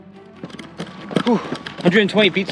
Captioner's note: shoes striking pavement